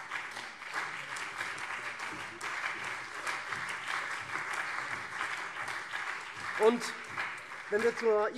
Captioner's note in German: Beifall SPD und CDU